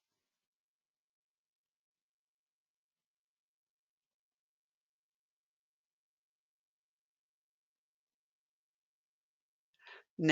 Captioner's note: 9 seconds pause